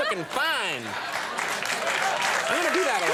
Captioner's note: audience applauds